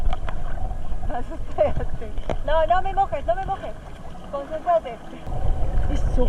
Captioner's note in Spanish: risa